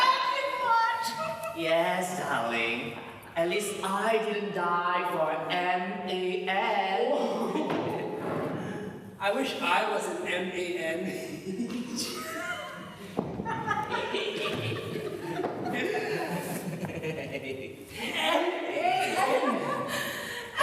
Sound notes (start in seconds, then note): 7.5 ANTIGONE chortles; 11.5 OPHELIA and ANTIGONE laugh